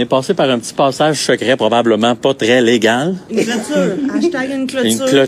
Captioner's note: laughs